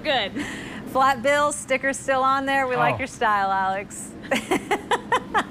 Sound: laughter

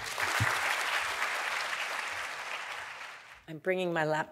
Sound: audience applauds

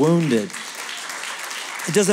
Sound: applause

